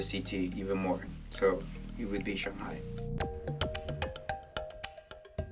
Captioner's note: voiceover